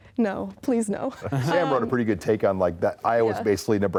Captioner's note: light laughter